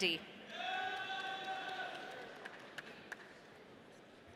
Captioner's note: audience cheering